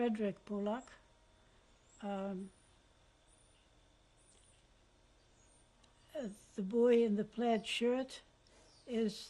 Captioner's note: pauses for 6 seconds